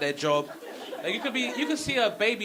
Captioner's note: audience laughing